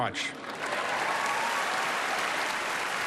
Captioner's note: cheering and applause